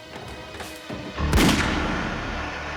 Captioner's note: gunshot